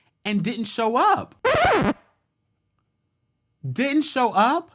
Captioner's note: record scratching